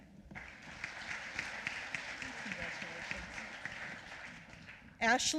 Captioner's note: applause